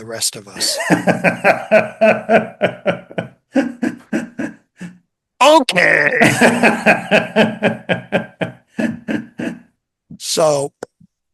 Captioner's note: INTERVIEWER: laughs